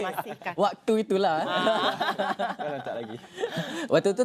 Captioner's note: laugh